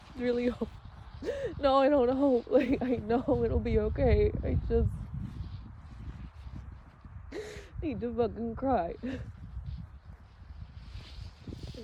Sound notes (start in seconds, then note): 4.9 coat rustles; 5.3 wind gusts; 6.8 sobs calm; 9.0 calms breath; 9.1 coast rustles; 10.2 snow crunches underfoot; 10.2 wind gusts